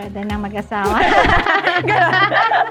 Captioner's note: laughs